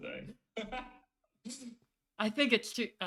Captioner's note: laughs